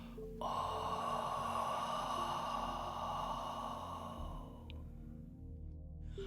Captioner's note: exhaling